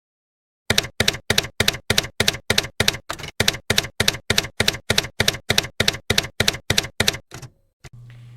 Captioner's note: typewriter keys clacking